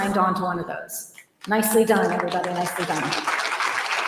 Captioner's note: applause